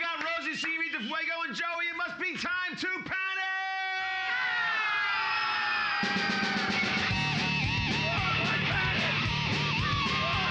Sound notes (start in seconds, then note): 3.6 loudly screaming; 6.2 hard rock music; 6.2 snare drum pounding